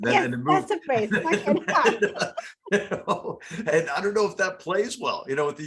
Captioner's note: laugh